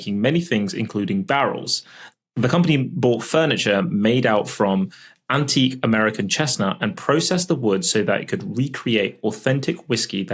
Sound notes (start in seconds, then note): none